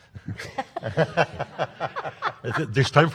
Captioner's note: panel laughs